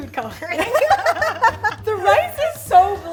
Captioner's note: laughs